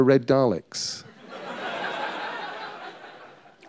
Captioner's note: laughter